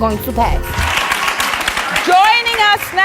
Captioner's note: audience applauds